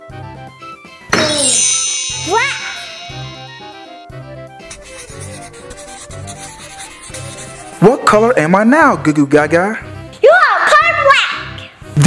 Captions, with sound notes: Boom. (chimes) Black. (scribbling) - What color am I now, Goo Goo Gaga? - You are the color black.